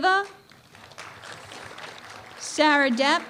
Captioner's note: applause